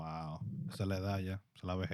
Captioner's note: speaking In Foreign Language